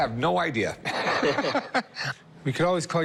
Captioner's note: laughs